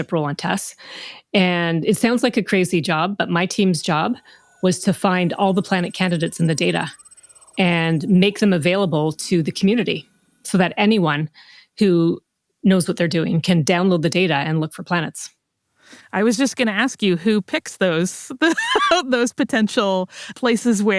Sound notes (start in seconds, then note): 17.1 laughs